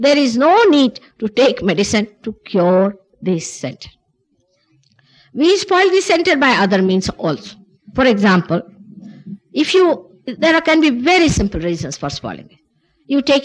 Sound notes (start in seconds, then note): none